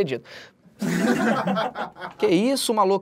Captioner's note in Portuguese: risadas